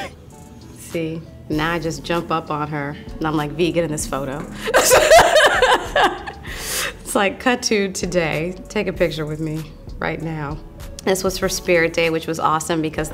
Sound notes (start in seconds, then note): 4.7 laughing